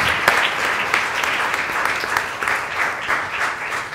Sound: applause

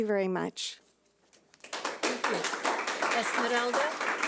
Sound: audience clapping

